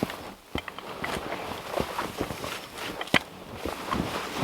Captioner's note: log scraping